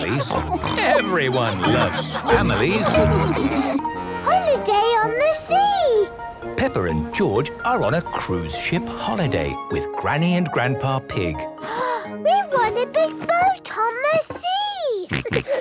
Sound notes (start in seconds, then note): 0.0 snorts; 11.6 gasps; 15.0 snorts, giggles